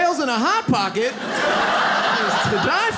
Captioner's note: audience laughs